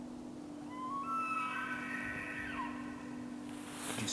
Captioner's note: elk bugles